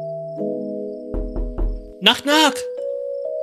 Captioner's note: knocks at the door